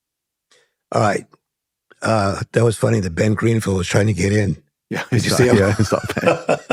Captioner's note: laughter